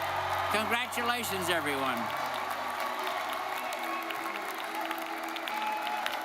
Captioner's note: audience cheers and applauds